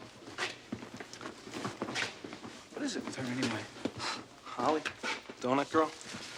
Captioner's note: none